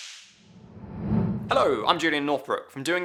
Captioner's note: electric crackling; whooshing